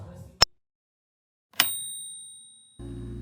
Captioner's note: bell dings